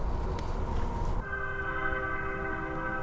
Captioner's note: train whistle